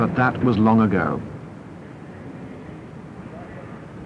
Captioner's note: truck engine; indiscriminate chatter